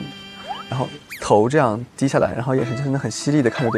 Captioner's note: imitates her